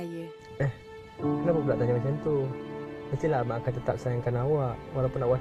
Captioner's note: speaking in foreign language